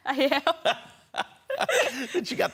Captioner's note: laughing